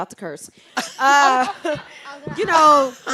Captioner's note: group laughs